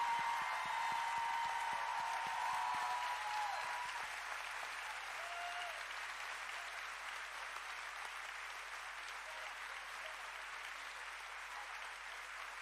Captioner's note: cheering